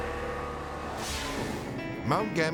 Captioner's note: air whooshes